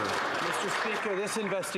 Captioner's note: some Applause